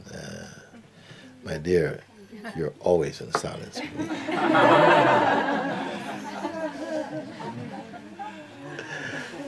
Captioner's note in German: Lachen